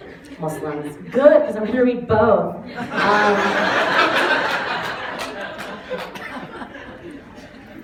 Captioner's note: laughter; laughter